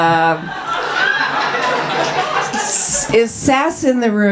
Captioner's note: audience laughs